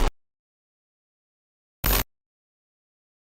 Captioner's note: silence